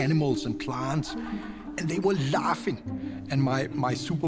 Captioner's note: laughter